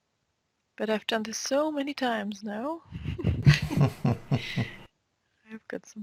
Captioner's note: both chuckle